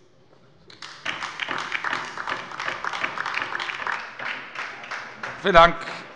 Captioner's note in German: Beifall bei der LINKEN